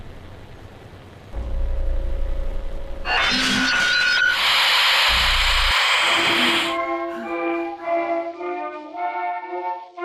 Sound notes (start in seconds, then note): 3.1 monster screeching; 4.1 static hissing; 6.8 melodic 1920's music